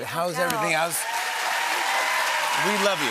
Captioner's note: cheers and applause